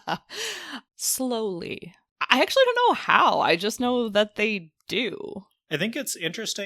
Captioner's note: laughs